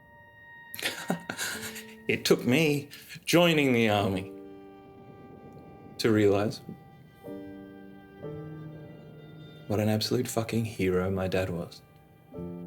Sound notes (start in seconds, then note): 0.8 nervous laughter; 7.0 slow sad music